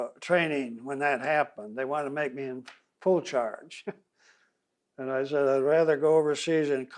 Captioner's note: laughs